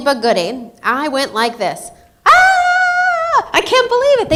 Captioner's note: screams